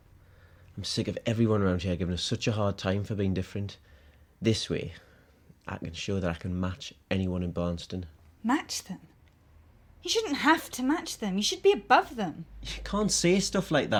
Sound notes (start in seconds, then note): none